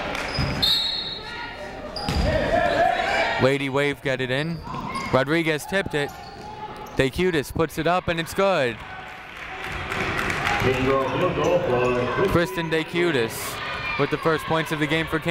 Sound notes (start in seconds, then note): 0.6 whistle tweeting; 2.2 people shouting in the crowd